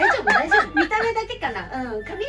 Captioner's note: laughs